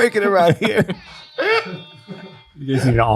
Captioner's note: group laughing